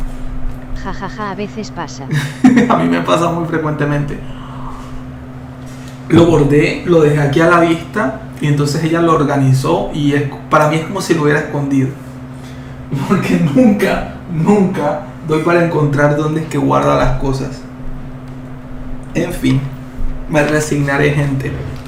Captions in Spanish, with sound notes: Jajaja. A veces pasa. [risas] A mí me pasa muy frecuentemente. Lo bordé. Lo dejé aquí a la vista y entonces ella lo organizó y es para mí es como si lo hubiera escondido porque nunca nunca doy para encontrar dónde es que guarda las cosas. En fin, me resignaré, gente.